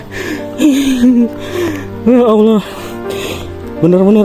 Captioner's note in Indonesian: terkesiap